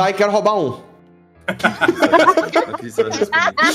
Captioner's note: laughs